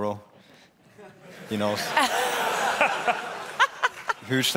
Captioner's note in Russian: смех